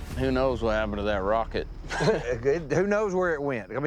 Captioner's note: chuckles